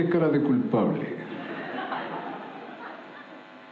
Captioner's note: laughter